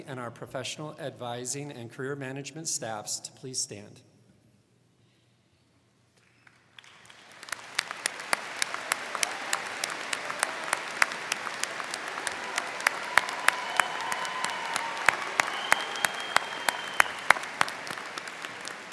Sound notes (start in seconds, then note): 6.5 crowd cheering; 6.5 crowd clapping